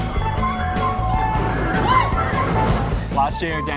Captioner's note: screams